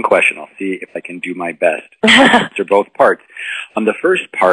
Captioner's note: laughter